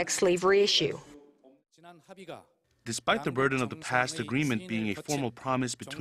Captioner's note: Korean